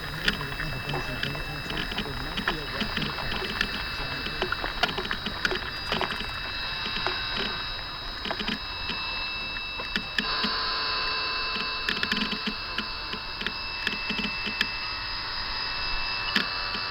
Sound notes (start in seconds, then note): 0.0 creak, feedback, voices merge; 0.5 splish splash, interference, underwater, crinkle; 7.9 buzzzzzz; 11.6 creaks and buzzzzz continue